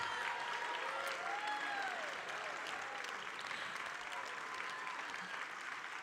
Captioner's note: audience cheering and applauding